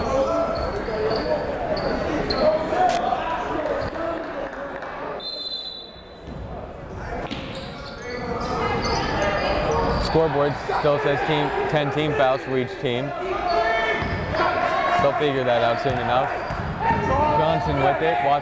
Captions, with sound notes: (chattering) (whistle blowing) Scoreboard still says 10 team fouls for each team. (yelling) They'll figure that out soon enough.